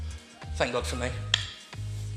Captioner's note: tongue clicks